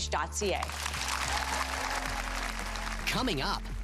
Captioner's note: audience applause